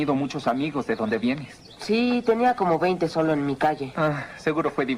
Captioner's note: croaking Continues